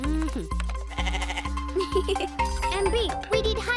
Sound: bleating; Sema giggles

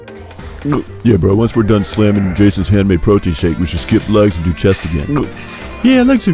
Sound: gulp

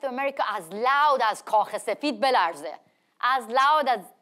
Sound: speaks in foreign language

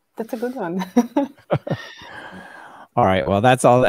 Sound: laughing

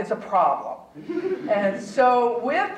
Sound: audience chuckling

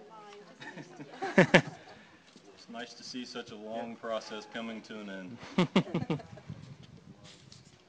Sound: laughter

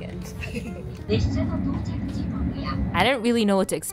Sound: announcer speaking in Japanese

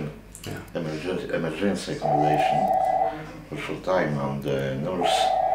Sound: phone ringing

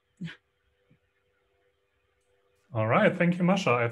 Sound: chuckles

